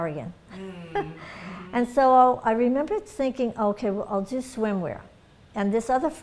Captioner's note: laughs